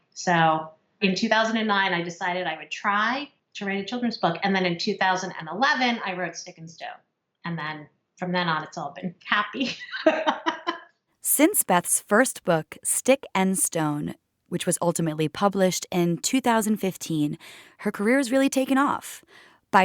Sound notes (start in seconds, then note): 9.7 laugh